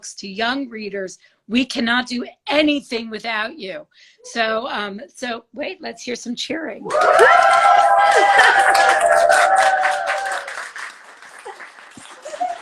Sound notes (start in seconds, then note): 6.8 all cheer; 7.0 laughs